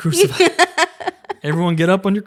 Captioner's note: laughs